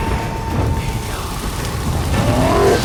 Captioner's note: flames crackle; roar